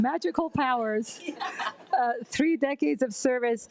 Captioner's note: attendees laugh